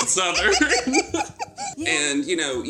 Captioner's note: both laugh